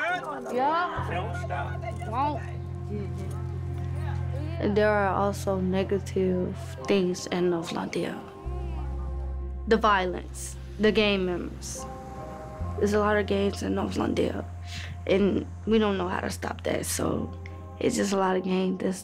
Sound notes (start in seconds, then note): 1.4 laughing; 5.6 dramatic music